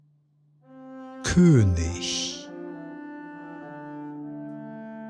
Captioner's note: german